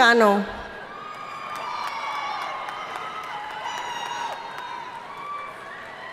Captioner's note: audience cheering and applauding